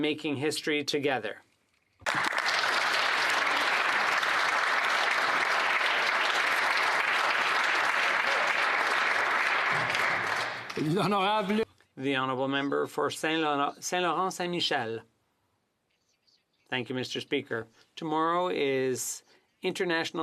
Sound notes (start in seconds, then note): 6.3 some Applause